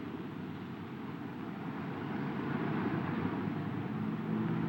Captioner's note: car engine roaring